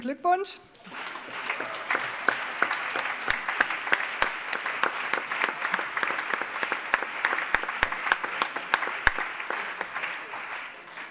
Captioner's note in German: Allgemeiner Beifall